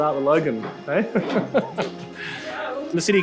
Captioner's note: laughs